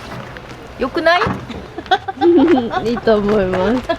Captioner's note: laughter